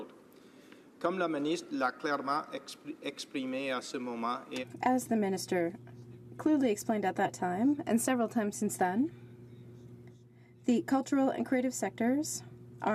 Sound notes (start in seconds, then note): 6.6 speaking French